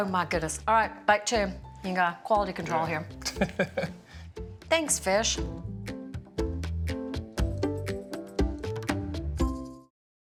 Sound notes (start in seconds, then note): 3.2 laughs